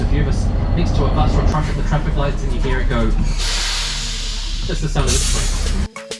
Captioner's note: hissing sound from tram and bus nearby